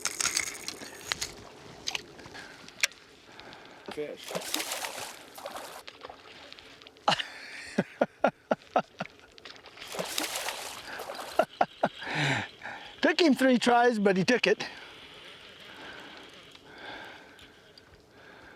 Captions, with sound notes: [Splash] [laughter] [splash] [laughter] it toke him three tries nut he toke it